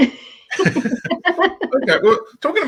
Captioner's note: laughing